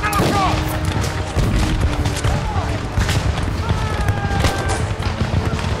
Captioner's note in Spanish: Explosiones, disparos